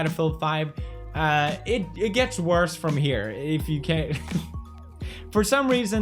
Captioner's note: laughs